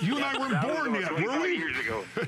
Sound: laughter

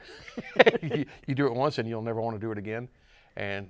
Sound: laughs

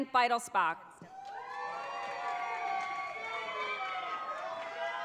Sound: audience cheers

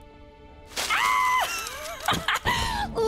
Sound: chuckling

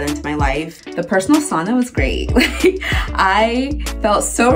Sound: chuckles

